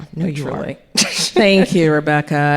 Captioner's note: laughing